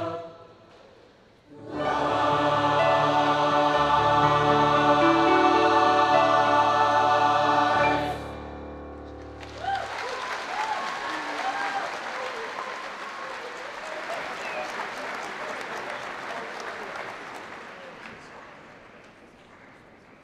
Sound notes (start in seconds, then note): 9.3 cheers and applause